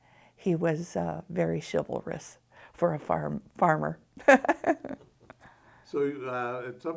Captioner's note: chuckles